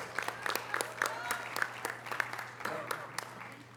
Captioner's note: audience applause